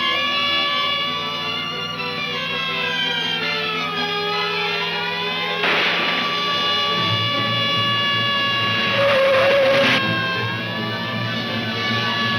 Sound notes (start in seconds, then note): 5.6 gun firing aggressively; 9.2 tires screeching